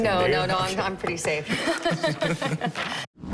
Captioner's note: laughter